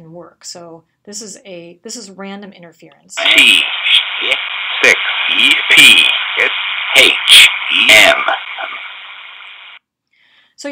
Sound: audio playing: characters read over background noise

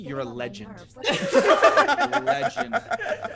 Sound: laugh

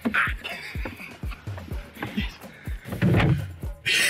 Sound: snickering

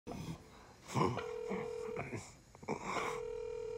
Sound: heavy breathing, phone ringing

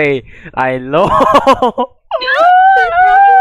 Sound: laughing

